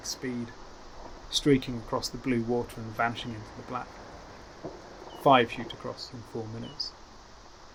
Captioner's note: bat calls chirp